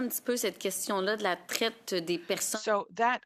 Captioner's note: speaking French